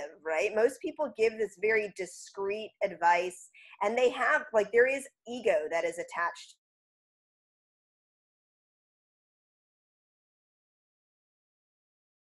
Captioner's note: audio cut off